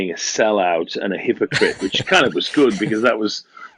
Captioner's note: laughs